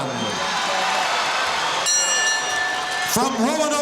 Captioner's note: bell rings